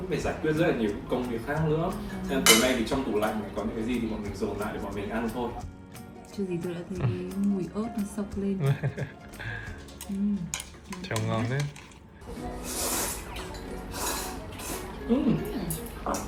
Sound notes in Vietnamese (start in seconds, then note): 13.3 khịt mũi